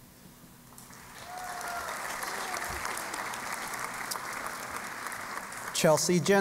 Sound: applause

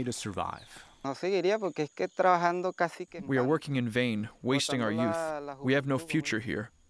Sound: through translator

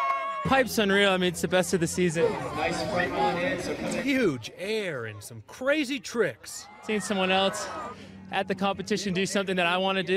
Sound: cheering and applause

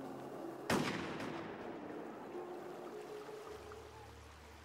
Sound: gunshot firing

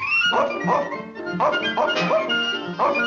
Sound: barks

